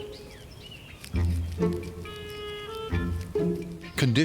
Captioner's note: plucky music; munching